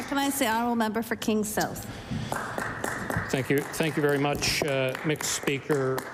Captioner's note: applause